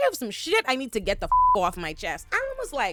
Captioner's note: beep